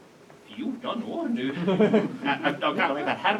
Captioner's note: laughter